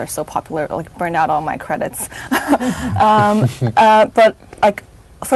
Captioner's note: chuckles